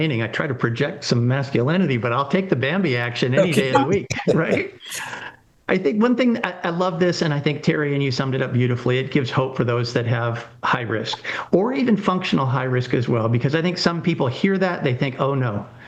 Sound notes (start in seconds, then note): 3.4 laughs happily